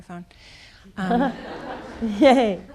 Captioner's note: people laughing